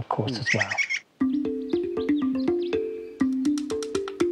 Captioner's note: bird vocalises